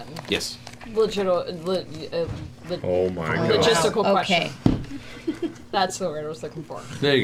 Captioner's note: fumbling words